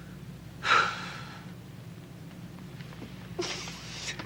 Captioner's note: Casey sighs